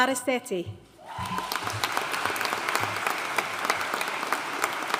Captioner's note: audience cheering and applauding